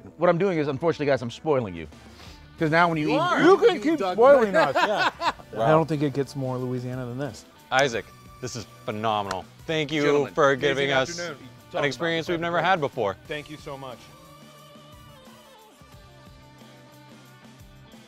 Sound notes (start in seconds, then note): 3.0 laughing; 15.1 funky band music